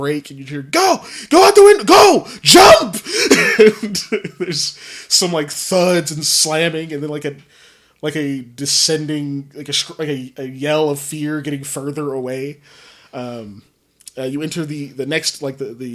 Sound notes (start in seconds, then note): 2.8 laughs